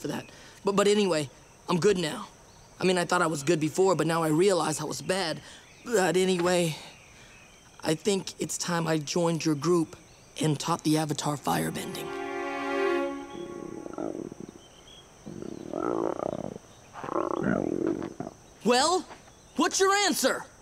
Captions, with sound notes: But anyway, I'm good now. I mean, I thought I was good before, but now I realize I was bad. But anyway, I think it's time I joined your group and taught the Avatar firebending. [croaking] Well, what's your answer?!